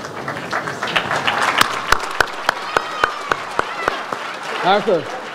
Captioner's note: audience applauds